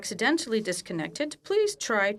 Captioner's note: speaking French